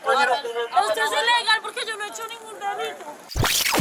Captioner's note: speaking in Spanish